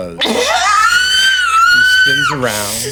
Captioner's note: screaming